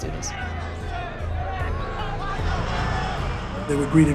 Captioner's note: crowd yelling indistinctly